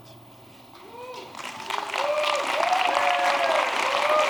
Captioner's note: applause